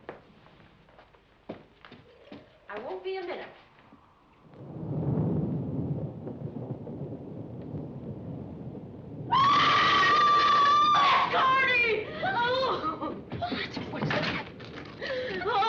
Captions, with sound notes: I won't be a minute. (screaming) Miss Corny! - What? What? What's the matter?